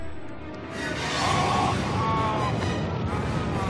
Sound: all groaning

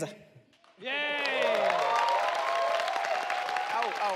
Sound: audience cheers

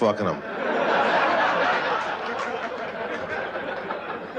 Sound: laughter

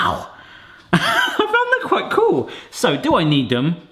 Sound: laughing

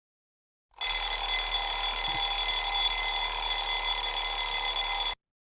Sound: alarm ringing

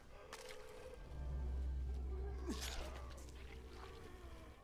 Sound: raspy breathing

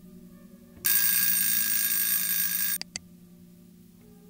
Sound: buzzing sound

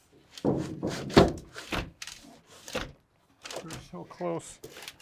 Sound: doorframe thumping

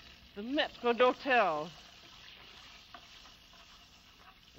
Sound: sizzling

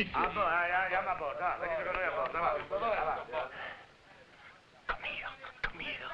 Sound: officers conversing in foreign language

